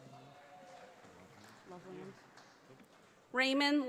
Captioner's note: audience applauding